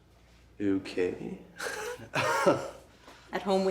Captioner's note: laughs